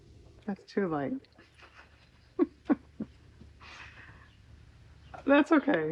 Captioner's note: laughs